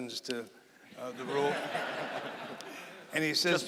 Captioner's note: audience laughter